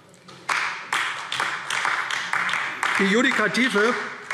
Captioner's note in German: Beifall AfD